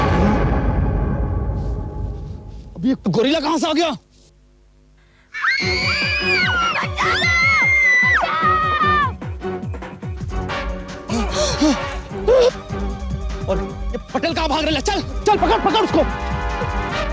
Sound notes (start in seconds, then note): 5.3 screams